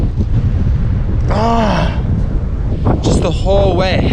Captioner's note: grunts